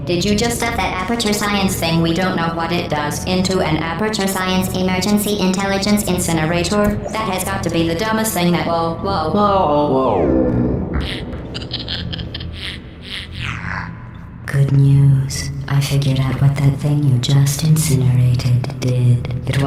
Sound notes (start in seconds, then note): 10.7 deep distant sounding laughter; 14.2 deeper voice